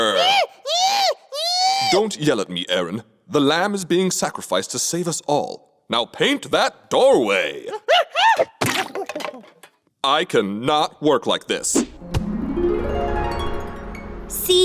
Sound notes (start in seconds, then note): 0.0 monkey screeching; 7.9 splatter; 7.9 monkey screech; 12.5 chimes